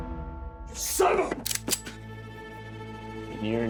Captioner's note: bob cocks gun